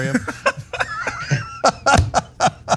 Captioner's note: laugh